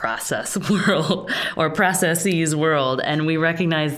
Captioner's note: chuckling